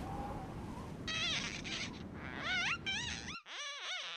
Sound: glass squeaking

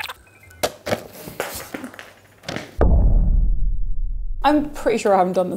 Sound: dropping noise

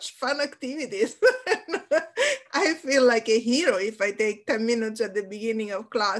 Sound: laughs

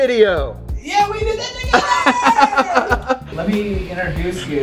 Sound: laughing

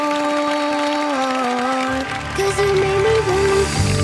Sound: applause

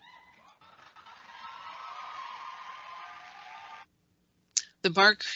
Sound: cheering and Applause

